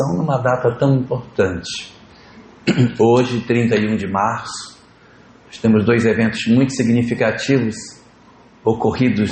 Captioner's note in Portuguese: limpando a garganta